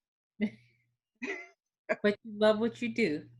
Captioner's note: laughing